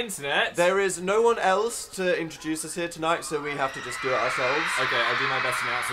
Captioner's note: screaming